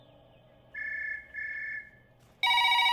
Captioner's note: Line ringing; Phone rings